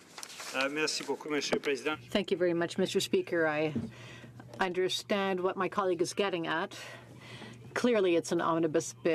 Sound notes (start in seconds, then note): 6.7 speaking French